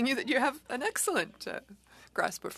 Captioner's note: speaking French